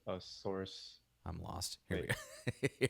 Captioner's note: chuckles